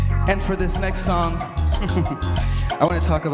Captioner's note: laughs